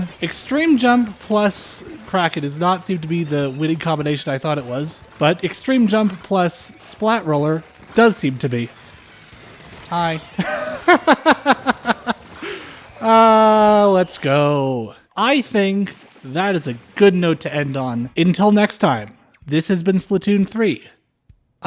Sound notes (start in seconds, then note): 10.3 laughter